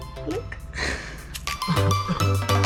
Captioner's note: laughs; upbeat music